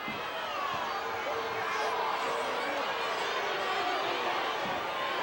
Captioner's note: wrestlers chattering